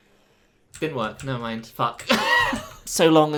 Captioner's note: laughter